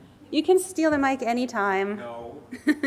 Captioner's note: laughs